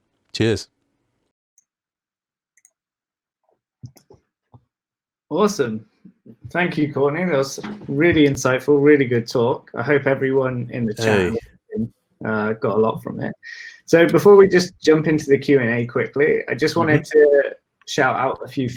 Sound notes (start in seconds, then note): 10.9 laughing